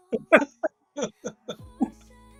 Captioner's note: laughing